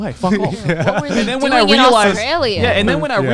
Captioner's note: laughing